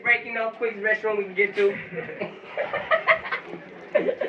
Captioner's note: laughter off camera